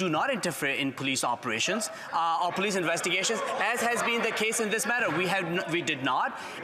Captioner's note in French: voix de l'interprète